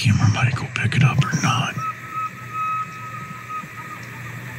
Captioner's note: elk bugle